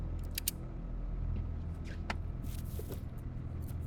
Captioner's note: gun clicks